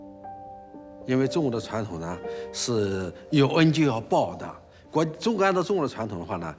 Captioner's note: hablan un idioma extranjero